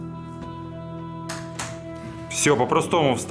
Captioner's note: hits keyboard buttons